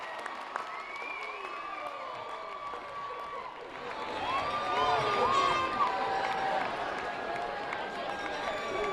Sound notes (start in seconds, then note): 1.7 applause